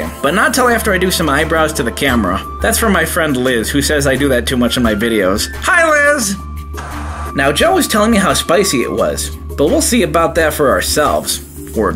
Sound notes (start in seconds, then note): 6.8 TV static